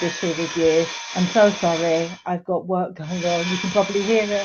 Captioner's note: whirring, drilling noise